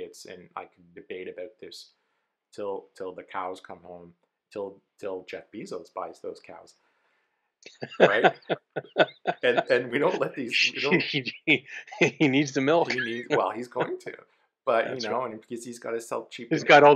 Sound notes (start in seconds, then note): 7.8 laughs